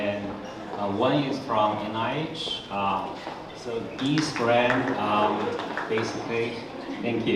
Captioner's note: audience applause